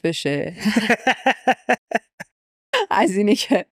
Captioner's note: laughs